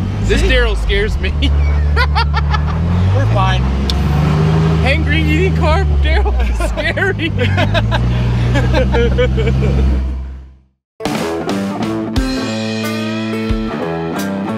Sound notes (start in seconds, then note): 1.4 laughs; 6.0 laughs; 11.0 upbeat country music